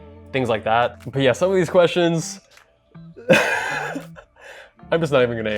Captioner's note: laughing